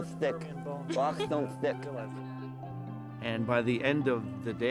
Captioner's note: lisping